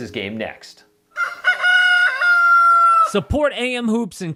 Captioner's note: rooster crows